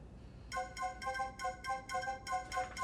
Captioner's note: phone ringing